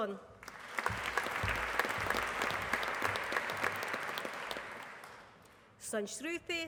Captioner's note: applause